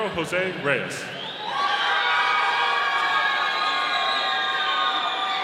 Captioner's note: audience cheering